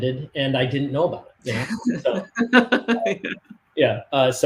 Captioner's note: laughs